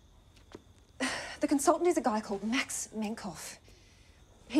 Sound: sighs

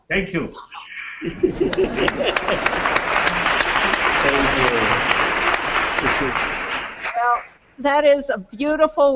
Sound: applause

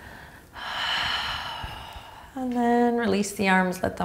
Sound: exhaling strongly

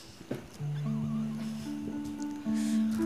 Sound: sighs

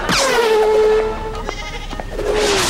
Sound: bleating

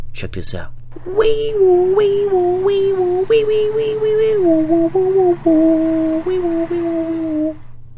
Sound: ambulance alarm

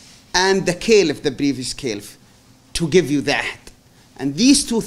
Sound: non-english

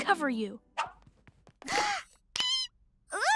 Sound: squeals

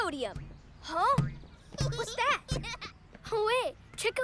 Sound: giggling

